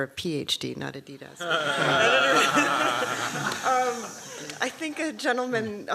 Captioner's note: laughter